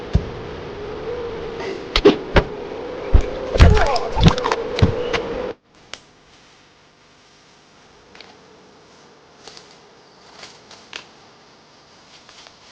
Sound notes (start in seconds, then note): 3.6 thug groaning